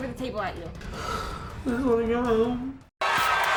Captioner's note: sniffling